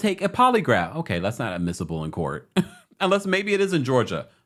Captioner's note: chuckles